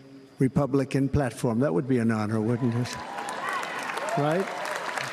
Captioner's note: applause